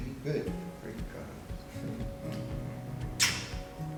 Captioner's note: speaking Portuguese